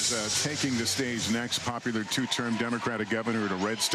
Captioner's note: applause